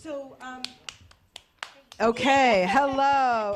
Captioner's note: clap